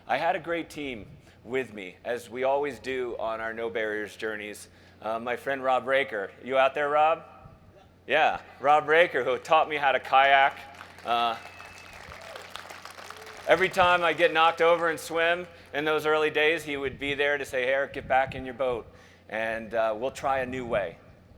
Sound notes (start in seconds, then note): 10.4 crowd cheers